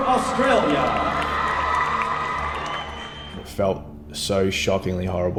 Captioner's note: audience clapping and cheering